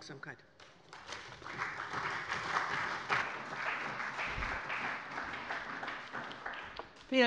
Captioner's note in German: Allgemeiner Beifall